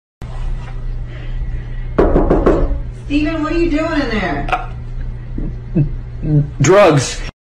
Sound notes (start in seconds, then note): 2.0 knock; 6.0 gulp